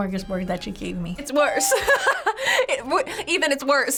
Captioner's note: laughing